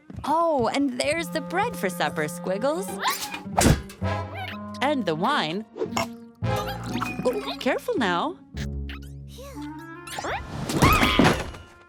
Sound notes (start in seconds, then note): 10.7 squeaking; 10.8 screams